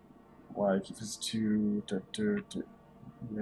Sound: counting wordlessly

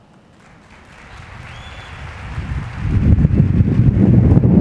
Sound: audience applauding

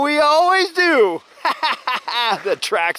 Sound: laughing

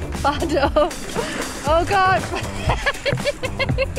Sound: laughing

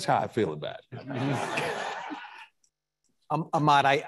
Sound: audience laughing

